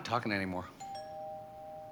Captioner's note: doorbell rings